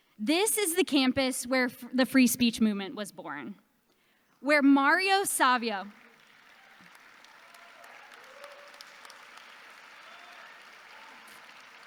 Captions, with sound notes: This is the campus where the free speech movement was born, where Mario Savio. (audience applauding)